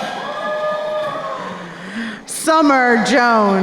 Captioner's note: crowd cheering